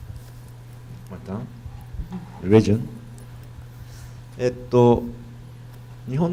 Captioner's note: speaking foreign language